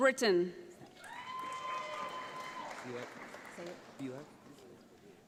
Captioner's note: audience applauds